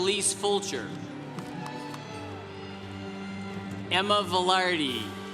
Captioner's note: congregation cheering